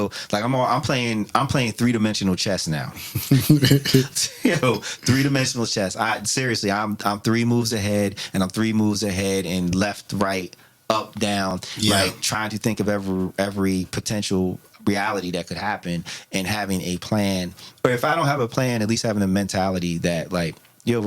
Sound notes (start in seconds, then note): 3.0 laughing